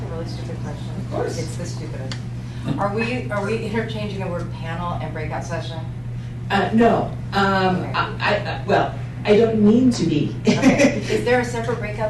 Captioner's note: laughter